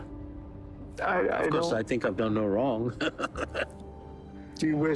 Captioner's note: chuckling